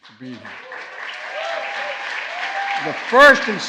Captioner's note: applause